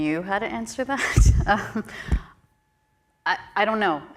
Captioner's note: chuckles